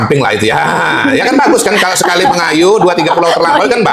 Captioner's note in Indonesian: tertawa